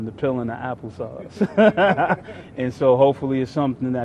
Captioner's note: laughs